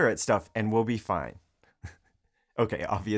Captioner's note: chuckling